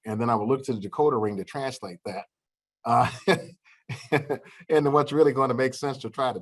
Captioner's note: laughter